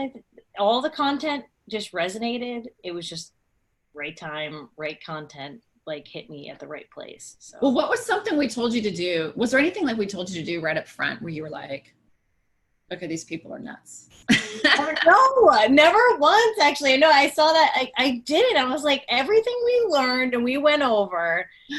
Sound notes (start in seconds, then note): 14.6 laughs